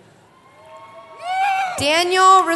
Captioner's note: cheering